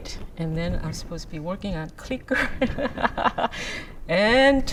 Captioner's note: laughs